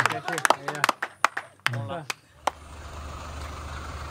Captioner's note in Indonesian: tepuk tangan